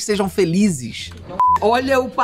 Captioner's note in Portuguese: som de bipe